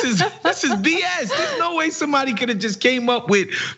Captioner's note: laugh